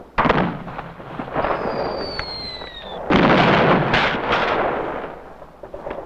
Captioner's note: explosions booming; guns blasting